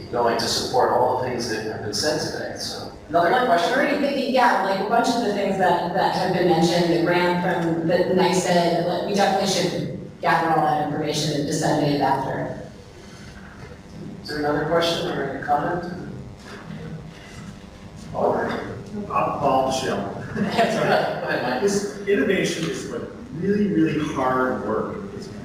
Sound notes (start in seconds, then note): 20.0 laughing